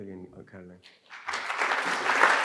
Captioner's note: applause